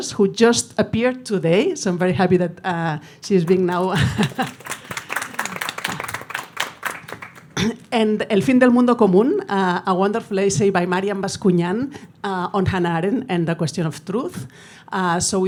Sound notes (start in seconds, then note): 3.4 audience applauding; 3.6 laughs; 8.1 speaking in foreign language